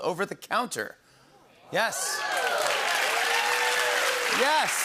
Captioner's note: cheers and applause